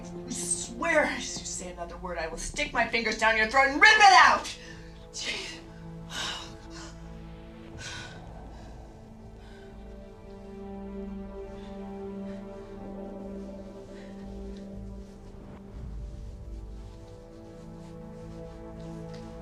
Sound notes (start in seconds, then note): 7.7 panting; 9.8 dramatic orchestral music playing